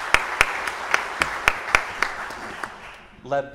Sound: audience applauding

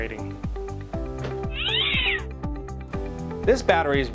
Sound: cat screech

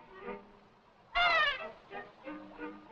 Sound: yelps

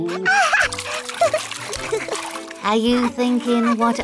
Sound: chuckles

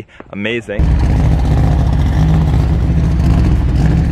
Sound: car engine running

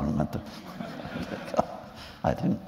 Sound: laughter

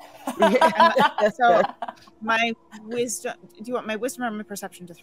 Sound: all laughing

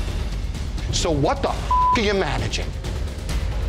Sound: suspenseful music; beeps

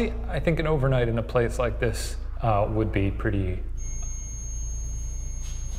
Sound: tool beeps

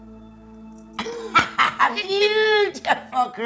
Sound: cackling

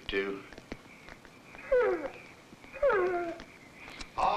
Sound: dog whines

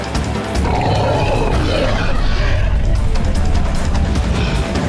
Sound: roaring

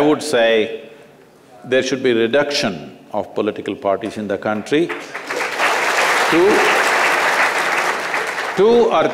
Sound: applause

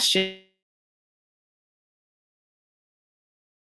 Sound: audio lost

